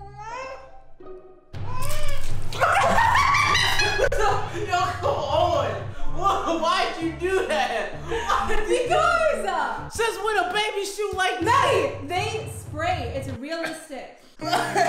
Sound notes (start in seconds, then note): 1.6 child wailing; 1.8 water splashing; 2.6 woman laughing; 14.3 slow soothing music